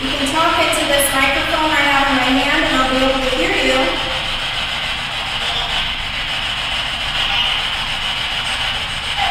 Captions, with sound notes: You can talk into this microphone I have in my hand and I'll be able to hear you. (static buzzing)